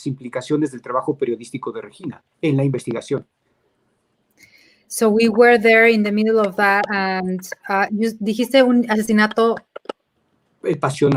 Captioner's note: speaking in Spanish